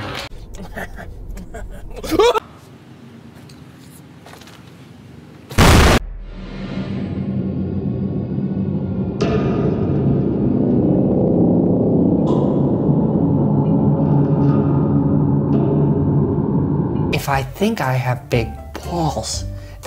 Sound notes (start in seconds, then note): 5.5 explosion sound; 9.0 dark grandfatherclock-like "tick" sound; 12.1 lighter, duller "tick" sound; 15.4 same dark "tick" sound from before